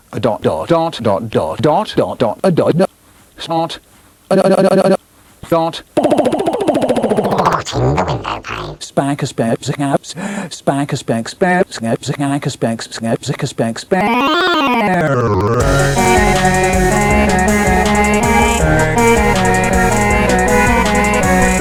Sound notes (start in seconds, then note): 6.5 pitch changing while stuttering; 8.0 voice pitched like a chipmunk Dalek